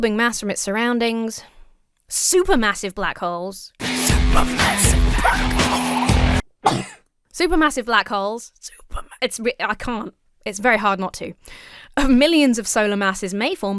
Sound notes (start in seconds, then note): 3.8 rock music; 6.6 sneezes; 8.7 starts to whisper song